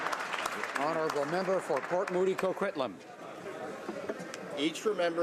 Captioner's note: some Applause